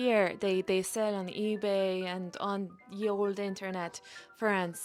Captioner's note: none